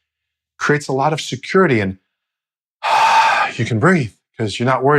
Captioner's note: exhales deeply